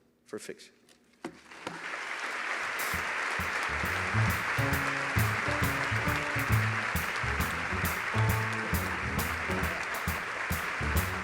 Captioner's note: applause